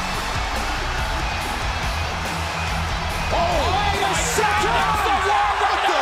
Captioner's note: cheers and applause